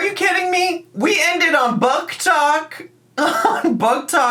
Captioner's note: laughs